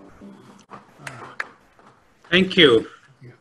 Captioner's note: clapping